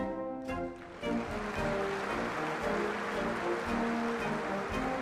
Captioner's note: applause